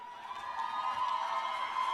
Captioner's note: cheers and applause